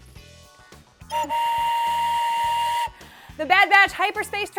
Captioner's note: train whistle blowing